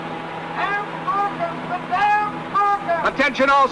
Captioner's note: man shouting